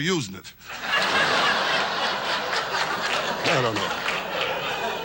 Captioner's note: audience laughs